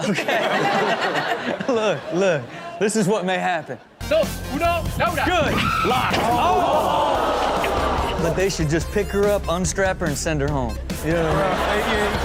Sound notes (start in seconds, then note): 1.7 everyone laughs; 4.3 speaking Spanish; 6.6 audience gasps